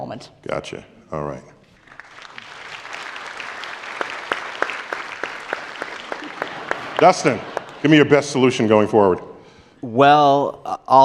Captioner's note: applause